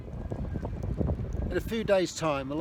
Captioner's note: wind blowing